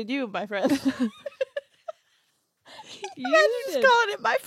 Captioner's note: laughs